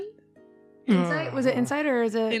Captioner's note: Rik groans